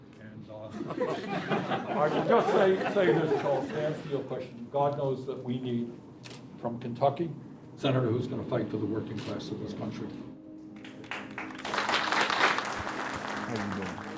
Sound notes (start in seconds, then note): 10.7 clapping